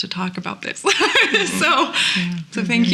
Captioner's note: laughs